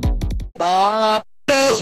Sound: noise

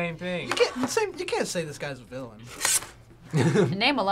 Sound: laughs

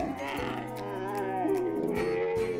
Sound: camel noise

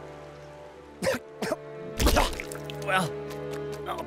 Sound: coughing

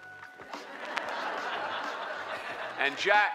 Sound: crowd laughter

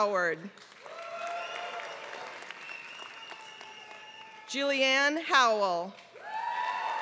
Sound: applause

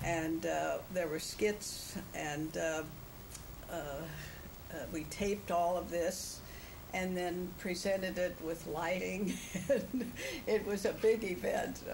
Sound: laughs

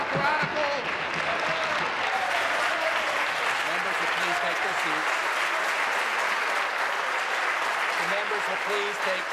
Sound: applause

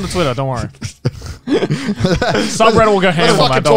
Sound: everyone laughs

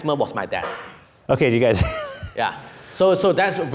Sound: laughing

